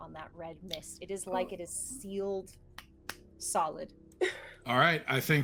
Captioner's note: claps hands